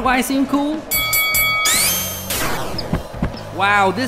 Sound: bell ringing

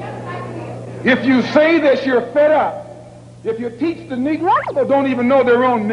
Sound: film skips

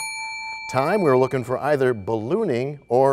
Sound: bell rings, time expires

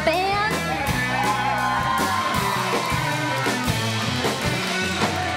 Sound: crowd Cheers

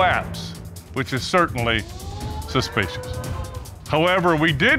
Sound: audience exclaiming

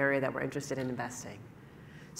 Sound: none

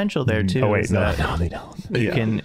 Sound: chuckling

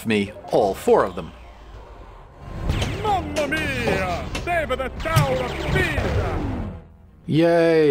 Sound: man with accent

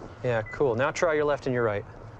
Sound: beeps

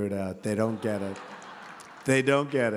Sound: laughter

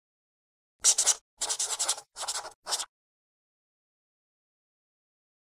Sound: marker scratching

